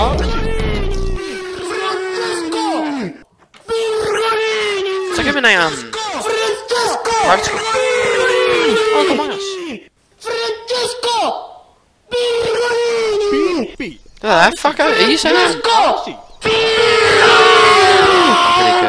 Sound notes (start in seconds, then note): 10.3 villager makes annoying noise